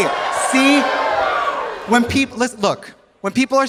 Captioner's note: audience cheering